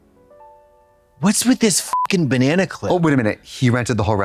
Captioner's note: beep